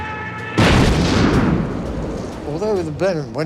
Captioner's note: plane thuds